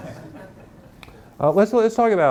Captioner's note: audience laughing